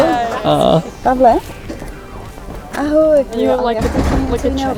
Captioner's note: ex-wife speaking in foreign language